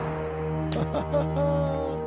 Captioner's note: chortle